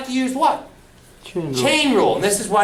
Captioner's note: voiceover